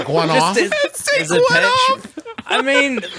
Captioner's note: laughs